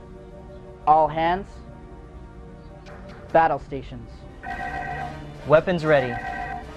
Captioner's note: klaxon